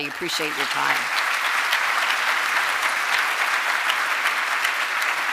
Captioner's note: audience applauding